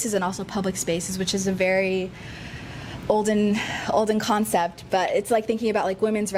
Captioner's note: sighs